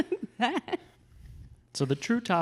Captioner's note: laughs